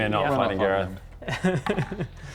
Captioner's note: not-reassuring DM giggles